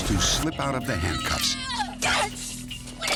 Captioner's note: screaming